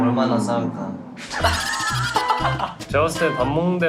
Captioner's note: haha